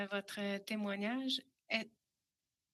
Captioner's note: speaking French